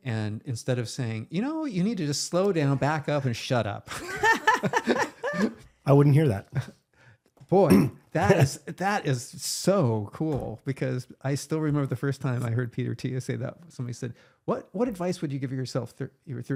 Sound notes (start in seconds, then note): 3.9 both laughing